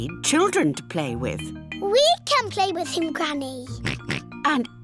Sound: oinks

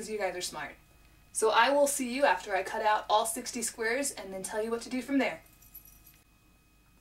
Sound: bracelet jingling

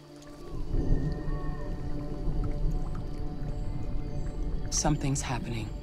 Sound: thunder rumbling

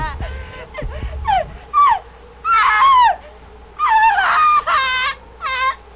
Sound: woman sobbing and screaming

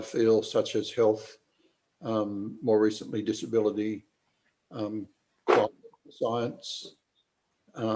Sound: audio distorted

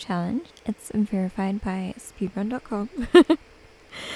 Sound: giggles

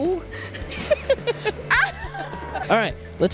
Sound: laughter

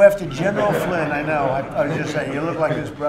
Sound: laughter

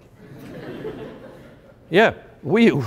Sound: laughter

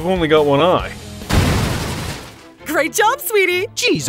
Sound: alien ship explodes

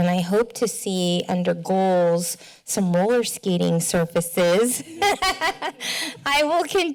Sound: laughter

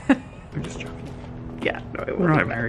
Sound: laughs

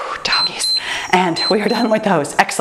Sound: timer beeps

